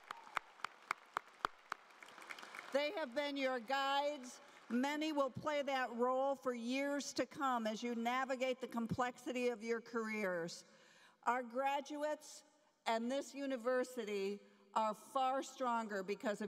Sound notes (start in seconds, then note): 2.2 applause